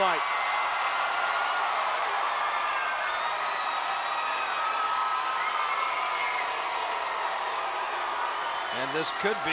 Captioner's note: applause